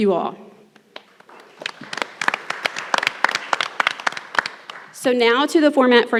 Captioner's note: everyone applauds